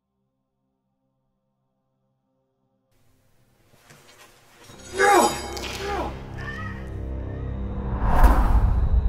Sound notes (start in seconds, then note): 3.8 swing of a sword; 4.8 she yelps; 4.9 he grunts; 7.0 thump